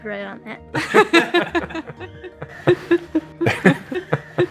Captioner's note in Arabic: الوالدان يضحكان